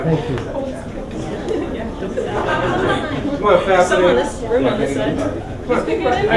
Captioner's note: talking and laughing